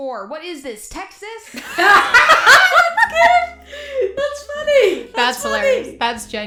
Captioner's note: both crack up laughing